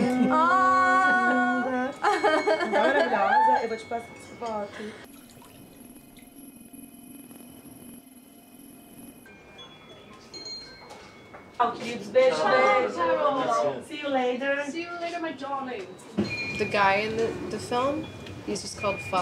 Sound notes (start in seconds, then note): 3.2 speaking in foreign language; 5.4 eerie ambient music; 11.6 all chattering